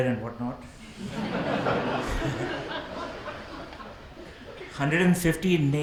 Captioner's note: audience laughs